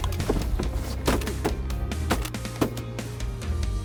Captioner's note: gun shots